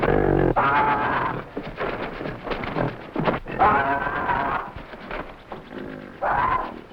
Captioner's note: Tobo screaming; plants rustling